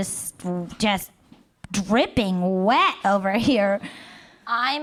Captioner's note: none